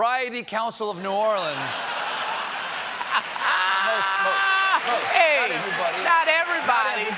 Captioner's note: laughter